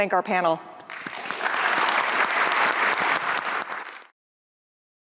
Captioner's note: applause